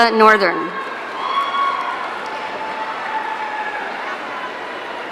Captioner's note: audience cheering